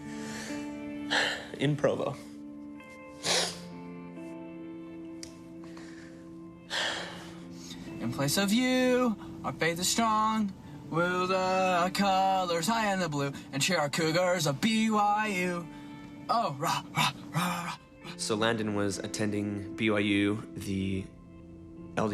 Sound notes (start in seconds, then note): 3.1 sniffles